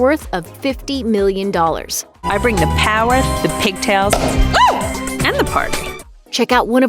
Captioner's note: pop